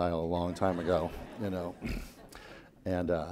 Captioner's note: laughing